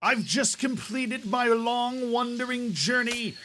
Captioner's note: nature show presenter voice